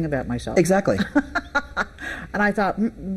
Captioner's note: laughing